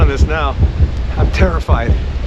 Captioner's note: loud heartbeat sound